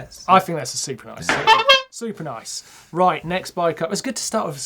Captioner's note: horn honks